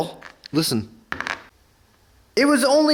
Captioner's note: hub bangs on surface